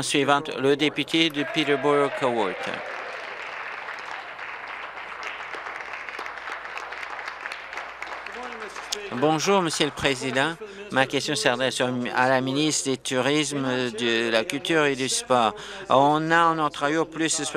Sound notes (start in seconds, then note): 0.0 applause; 5.8 applause; 6.7 cheers